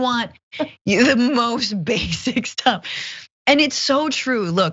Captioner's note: laugh